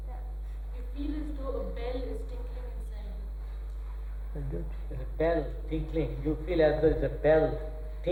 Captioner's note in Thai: หัวเราะ